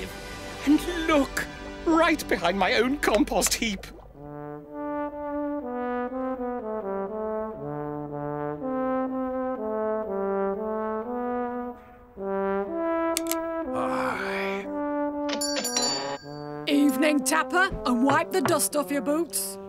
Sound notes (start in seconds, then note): 13.1 click!; 15.4 ding!